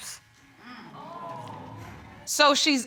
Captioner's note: audience exclaims